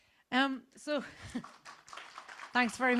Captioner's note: audience clapping